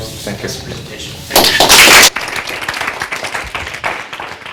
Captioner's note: applause